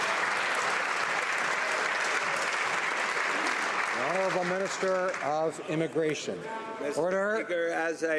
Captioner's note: some Applause